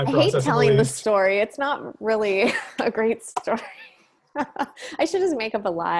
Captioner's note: chuckles